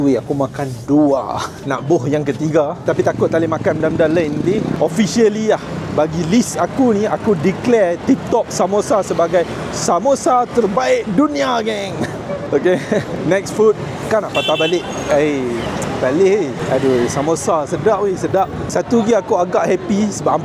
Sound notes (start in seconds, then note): 11.8 laugh